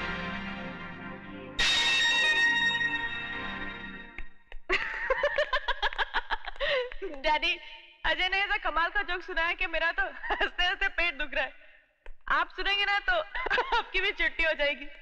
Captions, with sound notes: (Laughing) Ajay told me such a fine joke that I'm splitting at my sides! If you hear it, you too will die laughing.